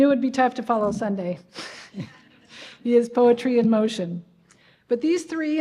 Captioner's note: laughter